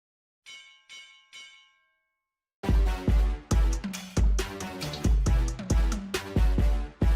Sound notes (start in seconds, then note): 0.4 bell ringing; 2.6 upbeat music